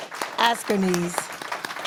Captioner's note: applause